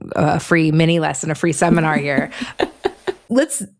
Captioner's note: laughs